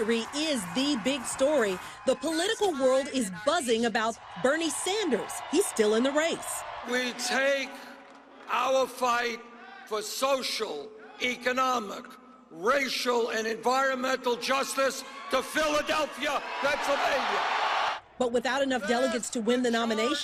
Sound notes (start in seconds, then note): 13.2 applause